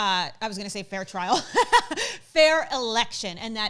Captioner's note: laughs